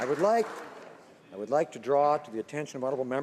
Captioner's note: some Applause